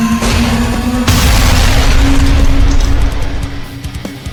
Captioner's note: scorpion beast clanking; ground crashes; intense rock music